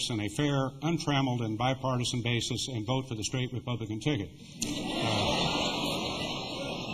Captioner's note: laughter